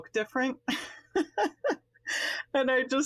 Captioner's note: laughs